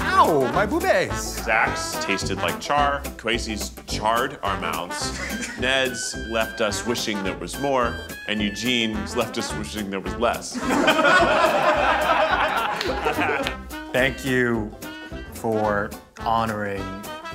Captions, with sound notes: - How? My bubes! - Zach's tasted like char. Kwesi's charred our mouths. Ned's left us wishing there was more, and Eugene's left us wishing there was less. (group laughs) (whimsical music) - Thank you for honoring...